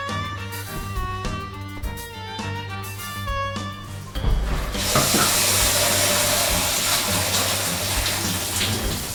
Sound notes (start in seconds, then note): 4.7 water splashing